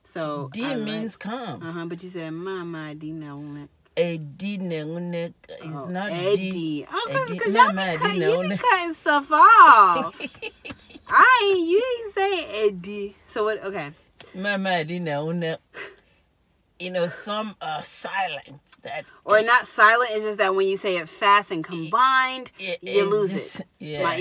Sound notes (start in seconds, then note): 9.7 laughs